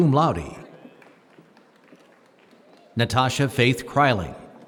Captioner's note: applause